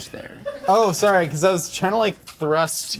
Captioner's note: crew member laughing